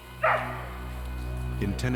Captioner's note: barking